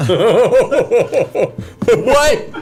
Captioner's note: laughs